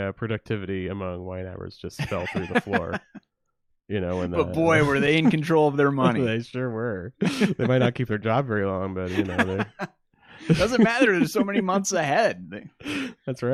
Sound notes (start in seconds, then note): 1.9 laughs